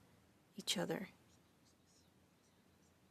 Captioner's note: speaking French